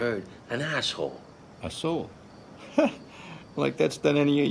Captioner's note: scoffs